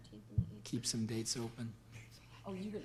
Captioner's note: whispers